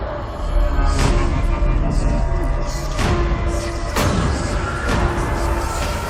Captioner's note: distorted whispering